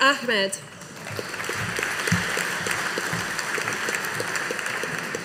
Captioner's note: audience applauding